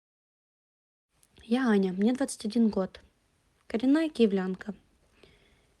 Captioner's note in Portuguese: russo